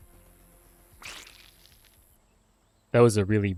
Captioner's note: Squelch